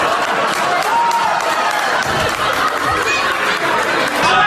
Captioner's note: audience applauds